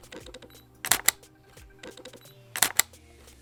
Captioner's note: camera clicks